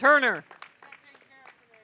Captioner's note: audience applauding